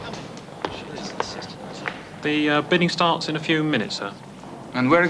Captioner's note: none